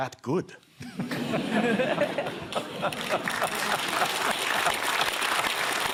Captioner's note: laughter and applause